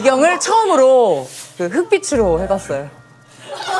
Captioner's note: swoosh